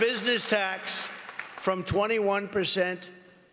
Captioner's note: applause